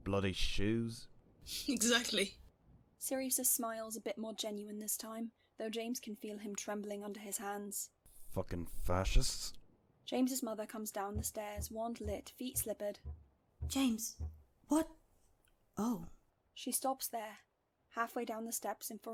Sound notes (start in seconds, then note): 13.6 footsteps